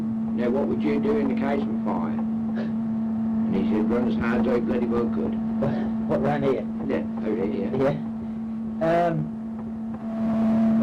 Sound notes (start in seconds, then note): 5.6 laugh